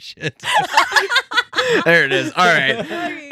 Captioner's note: laughing